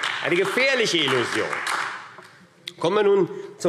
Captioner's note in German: Beifall AfD